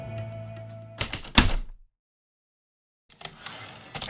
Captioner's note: heavy typewriter keystrokes then return slide